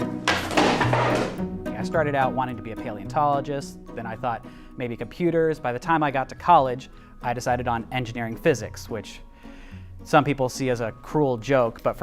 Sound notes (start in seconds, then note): 0.2 skateboard crashing